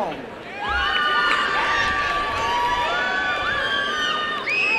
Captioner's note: applause and cheering